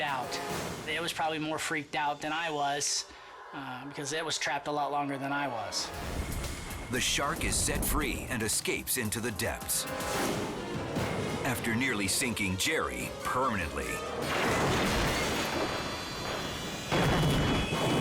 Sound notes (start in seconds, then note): 14.4 cage banging